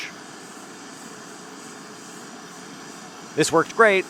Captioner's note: blowtorch blowing